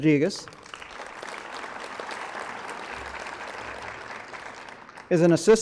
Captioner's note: applause